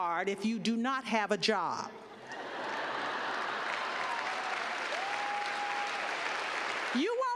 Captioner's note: laughter; cheers and clapping